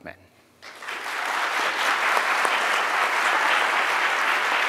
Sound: audience applauding

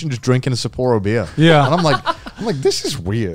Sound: laughing

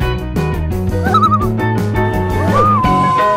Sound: loon call

